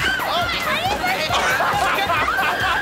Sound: laughing

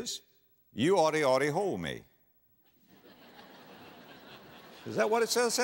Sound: audience laughter

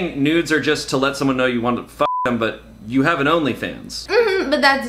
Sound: beep

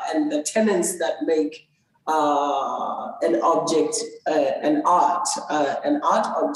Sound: none

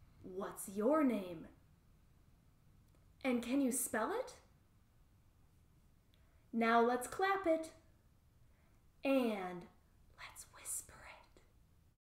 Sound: in a whisper

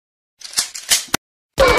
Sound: gun cocking?

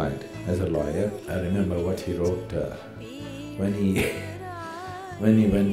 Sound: laughs

